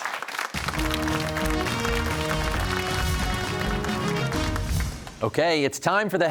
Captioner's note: applause